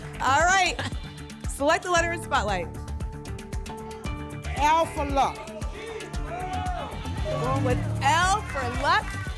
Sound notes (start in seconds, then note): 5.8 audience shouting letters